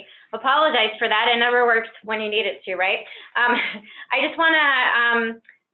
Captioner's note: laughs